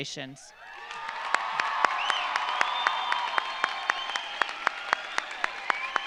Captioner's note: audience cheering; audience applauding